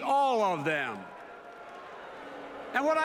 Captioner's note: boos in audience